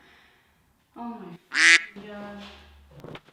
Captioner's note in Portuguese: quacking